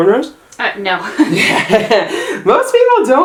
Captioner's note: laughing